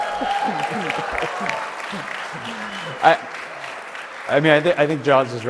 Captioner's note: applause